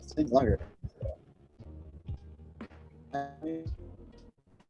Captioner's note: electronic glitches